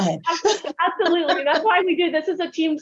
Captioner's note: laughs